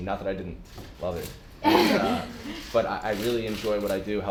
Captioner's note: laughter